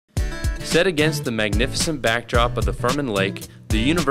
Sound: voiceover

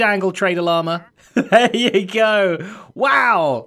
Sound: laughs

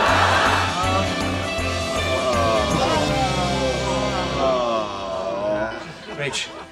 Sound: audience laughing; cheerful instrumental music; friends moaning

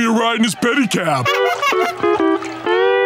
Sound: horn honking

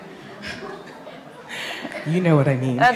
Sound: laughs

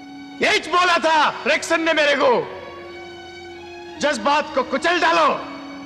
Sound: none

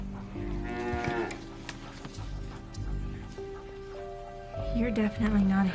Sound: suspenseful music; cow mooing

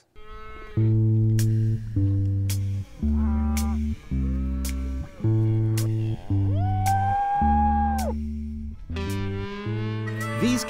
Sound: cow mooing

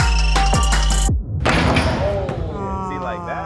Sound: ball thudding

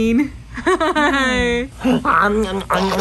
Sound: laughs; giggles

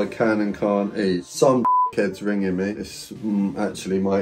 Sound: beep

